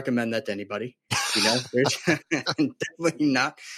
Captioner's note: laughs